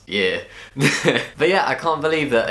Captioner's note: laugh